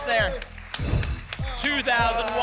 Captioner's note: whoosh